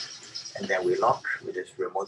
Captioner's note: cage door slams